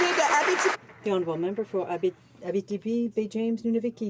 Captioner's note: some Applause